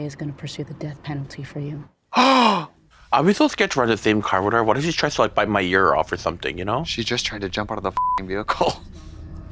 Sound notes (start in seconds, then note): 2.2 Trixie gulps